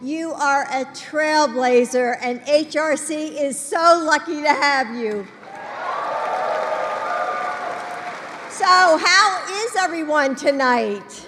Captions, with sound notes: You are a trailblazer, and HRC is so lucky to have you. (Applause.) So, how is everyone tonight?